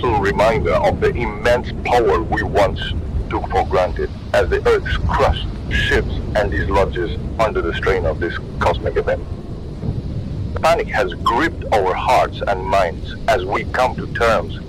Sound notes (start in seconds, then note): 9.4 wind blowing